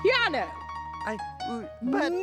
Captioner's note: stammering